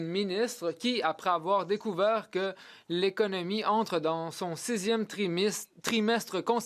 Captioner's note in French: voix de l'interprète